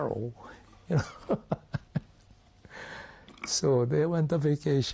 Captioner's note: laughs